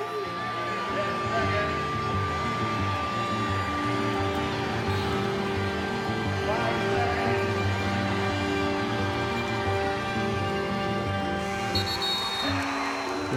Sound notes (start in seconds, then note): 0.5 announcer's voice; 6.2 announcer's voice; 11.3 buzzer and referee's whistle